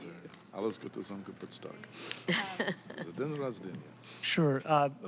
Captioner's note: laughter